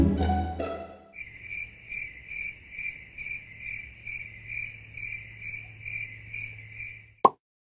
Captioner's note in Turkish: Cırcır Böceği Sesi